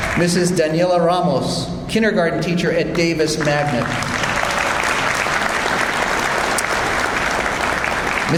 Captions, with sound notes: Mrs. Daniella Ramos, kindergarten teacher at Davis Magnet. (audience applauds)